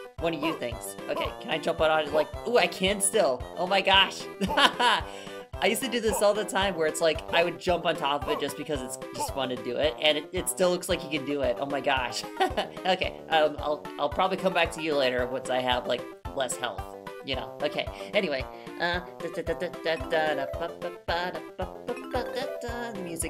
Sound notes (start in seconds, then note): 4.4 laughing; 12.5 laughing; 19.2 stammering turning into singing with music